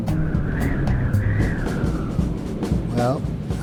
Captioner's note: wind blowing